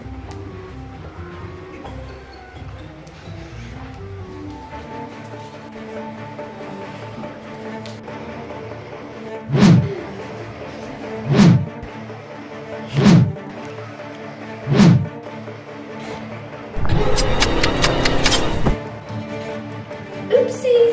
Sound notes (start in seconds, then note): 5.4 suspense music; 9.4 wind whoosh; 13.1 wind whoosh; 17.5 dramatic music